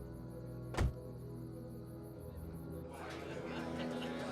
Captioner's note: car door slams shut; patrons chattering indistinctly